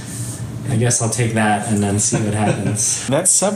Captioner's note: laughs